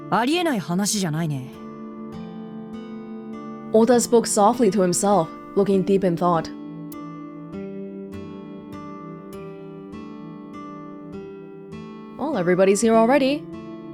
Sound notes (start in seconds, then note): none